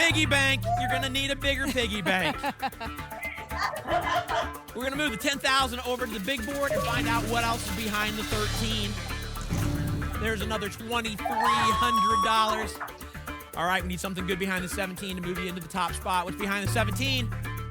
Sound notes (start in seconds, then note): 1.5 laughter; 11.2 applause and cheering